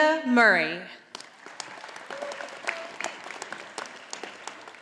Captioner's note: audience applauding